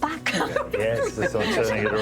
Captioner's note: laughs